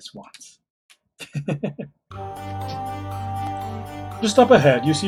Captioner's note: chuckles